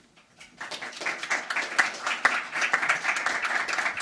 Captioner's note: audience applauding